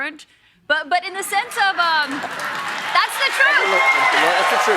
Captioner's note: applause